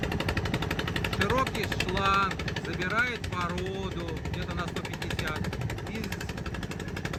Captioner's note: motor humming